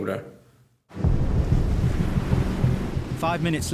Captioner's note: boat engine revving